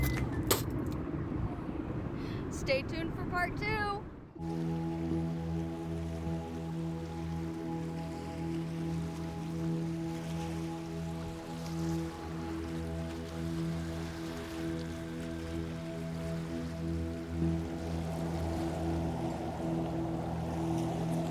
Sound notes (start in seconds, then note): 0.0 playful music; 4.5 peaceful music; 4.5 water flows; 17.8 wind blows